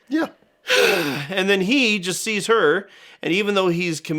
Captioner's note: exasperated sigh